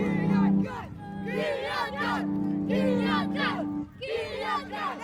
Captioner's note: chanting in foreign language